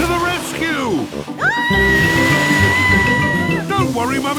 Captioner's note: screaming